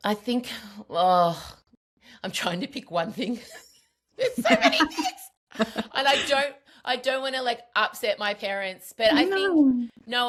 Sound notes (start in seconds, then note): 4.3 laughs